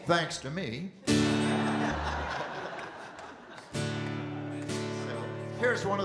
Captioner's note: audience Laughing